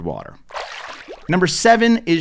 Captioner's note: water splashes